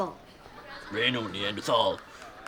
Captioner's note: in deep voice